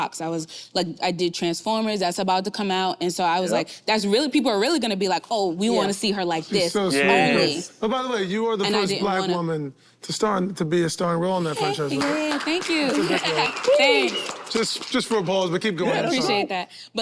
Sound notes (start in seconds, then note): 11.5 group clapping; 12.6 laughs